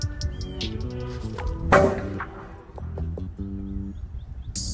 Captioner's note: loud clang